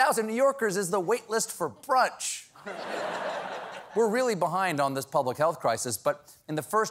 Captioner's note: laughter